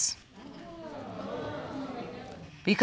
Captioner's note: audience exclaims